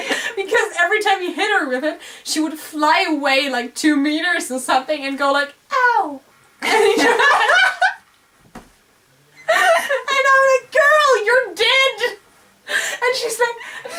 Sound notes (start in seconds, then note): 9.3 laugh